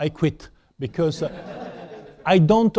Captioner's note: laughter